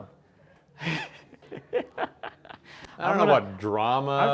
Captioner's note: laughing